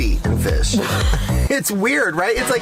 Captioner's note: laughs